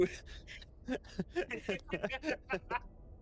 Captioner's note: laughs